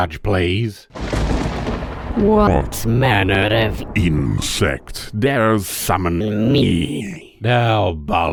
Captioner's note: thunder